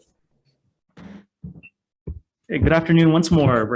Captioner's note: gavel strikes